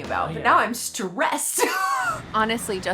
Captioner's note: laughs